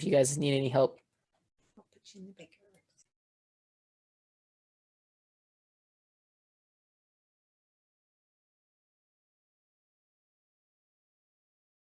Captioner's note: no speech